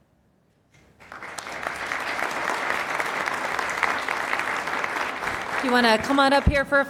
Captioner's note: applause